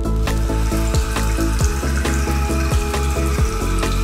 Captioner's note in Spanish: Agua corriente